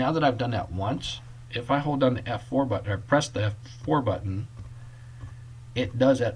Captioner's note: clicking